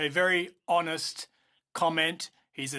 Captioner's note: speaking in French